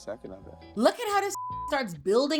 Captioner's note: beep